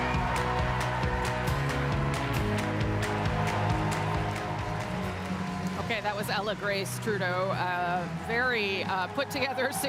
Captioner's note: cheering and applause